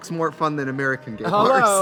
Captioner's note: laughs